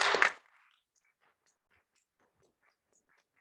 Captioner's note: clapping